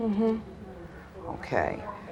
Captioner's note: audience murmuring